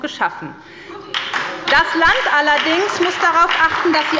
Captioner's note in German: Beifall bei der SPD